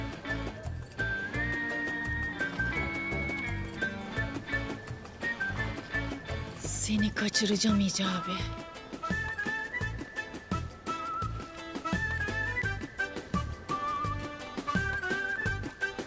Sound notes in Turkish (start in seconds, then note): none